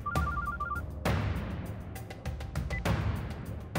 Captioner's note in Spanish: Suena un celular